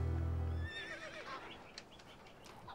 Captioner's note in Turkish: Hayvan sesi